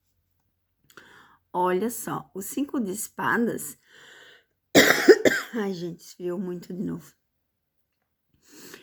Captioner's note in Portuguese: tosse